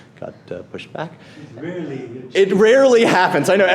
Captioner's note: voiceover